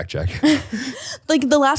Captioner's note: laughs